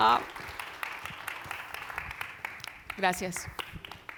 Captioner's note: audience applauds